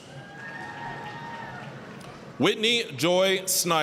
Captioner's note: applause, cheering